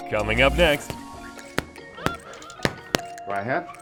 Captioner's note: chill R&B music; punches thudding